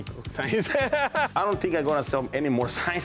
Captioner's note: laughing